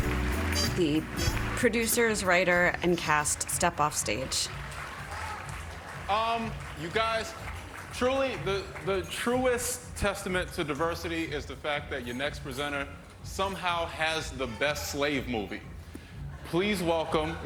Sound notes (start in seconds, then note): 4.2 applause